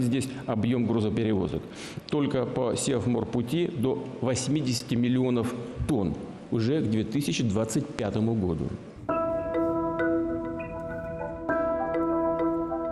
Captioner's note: speaking russian